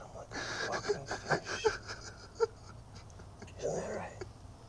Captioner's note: sobbing